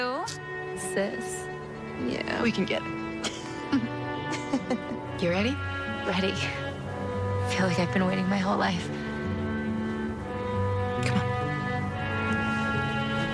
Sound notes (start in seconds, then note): 3.2 chuckling